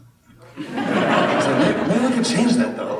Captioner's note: laughter